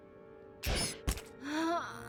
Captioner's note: dart whooshes